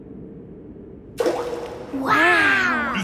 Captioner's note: rock plops